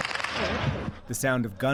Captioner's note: gunshots